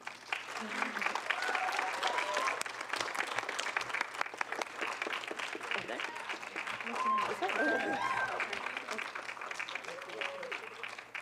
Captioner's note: applause